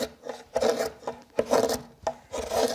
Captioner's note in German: Kratzendes Geräusch